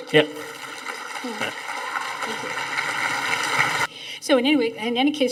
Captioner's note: audience applauding